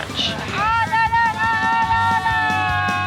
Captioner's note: shouting